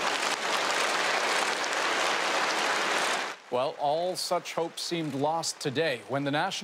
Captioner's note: applause